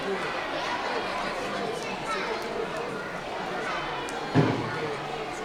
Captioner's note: audience chattering continues